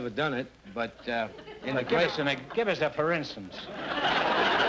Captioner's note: audience laughter